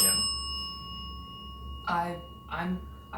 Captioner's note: bell dings